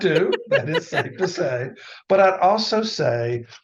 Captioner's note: laughing